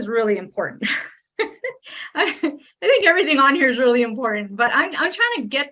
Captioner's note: laughs